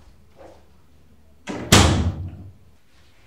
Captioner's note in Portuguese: Porta batendo